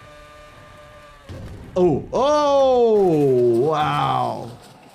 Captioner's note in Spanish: zumbido del vehículo; ruido sordo del vehículo